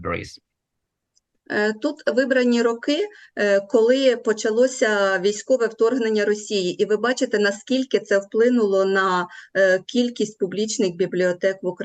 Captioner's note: foreign Language